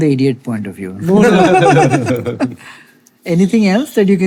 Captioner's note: all laughing